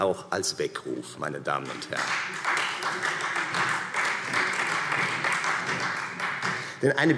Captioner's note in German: Beifall Freie Demokraten